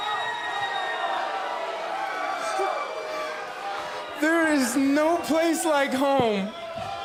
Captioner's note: crowd cheering